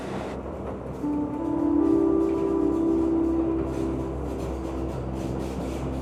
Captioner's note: Trem desacelerando; Sons de trem em movimento